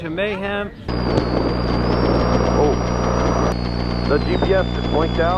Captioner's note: radio Noise